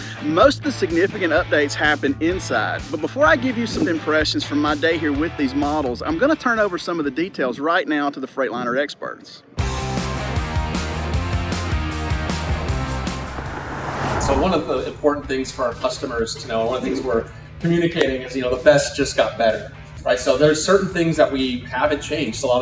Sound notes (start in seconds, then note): 9.6 upbeat music; 13.6 truck whooshes